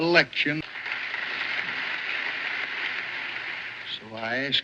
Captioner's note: clapping